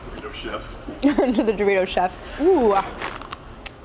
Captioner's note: laughs